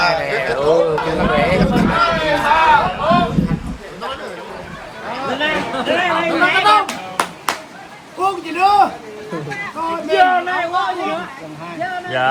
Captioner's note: drinking and chatting